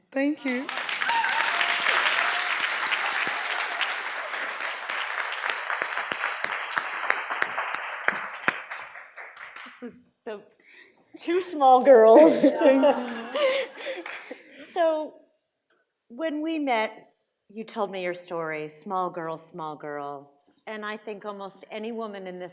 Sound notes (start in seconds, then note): 1.3 audience applauds and cheers; 12.0 laughing